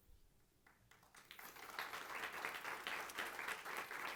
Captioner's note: applause